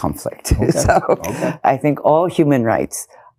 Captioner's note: laughs